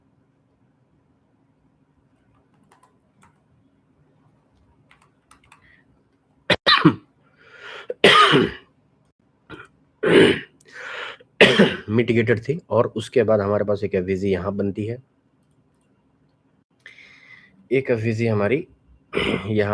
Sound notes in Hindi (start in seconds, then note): 9.8 खांसने की आवाज़; 10.0 गला साफ़ करने की आवाज़